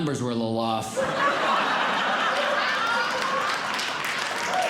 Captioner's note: audience Laughing; audience Clapping